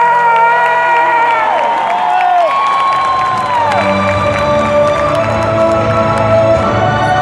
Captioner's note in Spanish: aplausos